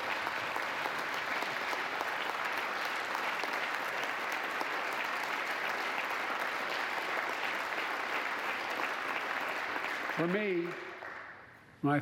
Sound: applause

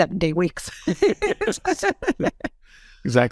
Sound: laugh

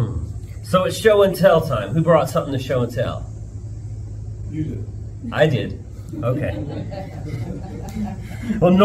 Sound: laughter

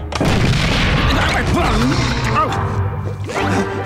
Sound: groaning

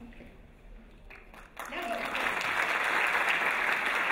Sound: applause

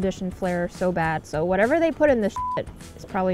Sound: beep

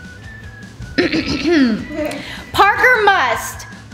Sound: clears throat

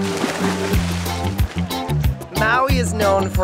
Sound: divers shout; water splashes

